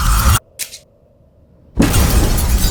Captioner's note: eerie music continues; eyelids click; door bursts open